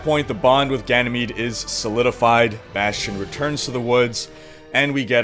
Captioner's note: none